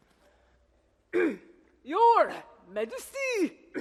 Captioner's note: clears throat